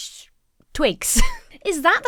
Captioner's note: laughs